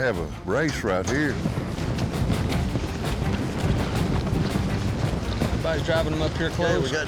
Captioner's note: hoofbeats